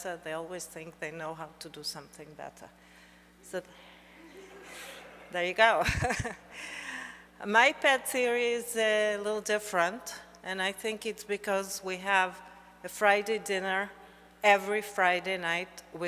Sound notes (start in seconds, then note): 4.2 audience laughs; 5.8 chuckles